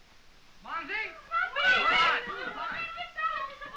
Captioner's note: girls speaking french